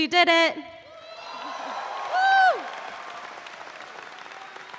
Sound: audience cheering

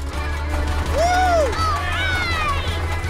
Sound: cheering

